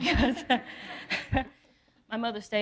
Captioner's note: laughing